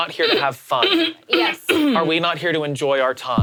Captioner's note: clearing throat